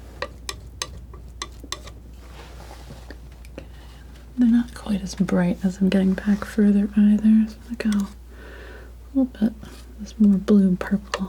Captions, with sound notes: (scratching) They're not quite as bright as I'm getting back further either, so I'll go a little bit, just more blue and purple.